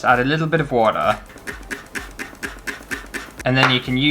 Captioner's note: spray Bottle Squirting